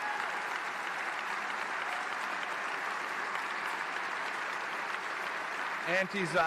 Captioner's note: applause